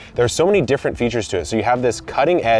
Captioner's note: none